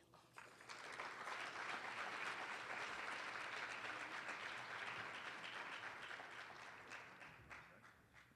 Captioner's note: applause